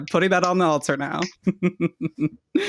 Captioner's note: laughter and snaps